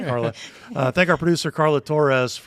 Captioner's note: all chuckle